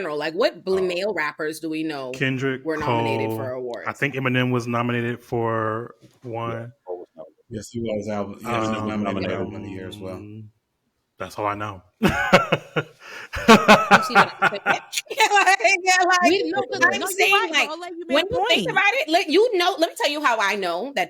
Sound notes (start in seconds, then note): 13.3 laughter